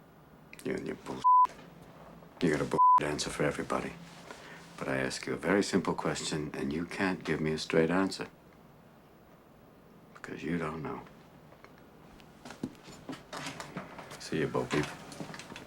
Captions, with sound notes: You and your [b-eep-s]. You have a [b-eep-s] answer for everybody. But I ask you a very simple question, and you can't give me a straight answer. Because you don't know. I'll see you, Bo-peep